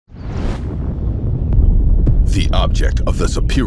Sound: whooshing sounds

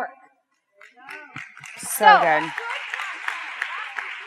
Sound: audience claps

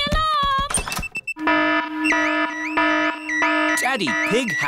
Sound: alarm blaring

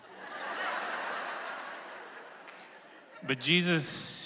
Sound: congregation laughing

